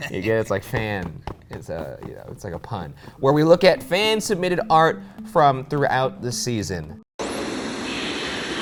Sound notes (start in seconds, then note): 7.1 static buzzes